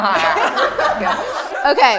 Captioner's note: laughter